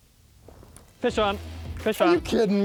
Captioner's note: pat